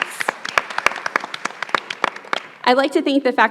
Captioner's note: everyone applauds